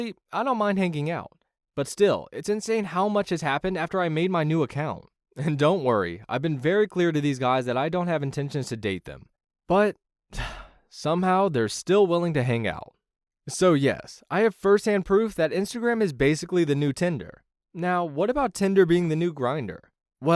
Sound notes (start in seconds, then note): 10.3 sigh